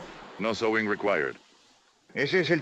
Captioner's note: in spanish